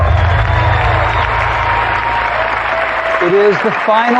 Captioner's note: cheering and applause